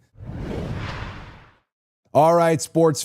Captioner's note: rushing sound plays